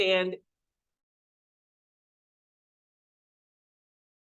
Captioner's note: audio cuts out